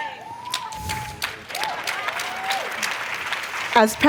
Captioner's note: applause